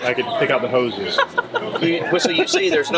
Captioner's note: laughter